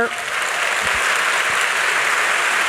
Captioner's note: audience clapping